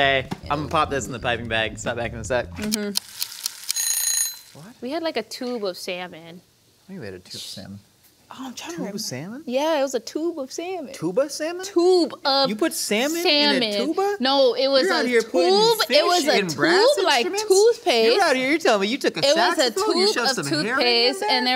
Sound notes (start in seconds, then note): 2.7 timer Ticking; 3.7 timer Ringing